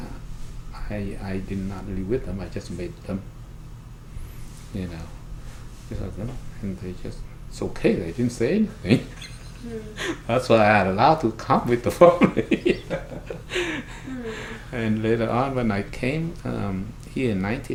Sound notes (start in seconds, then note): 8.4 laughs